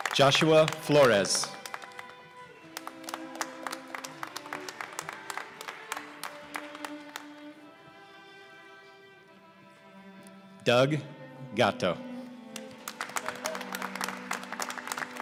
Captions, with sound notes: Joshua Flores (applause) Doug Gatto (applause)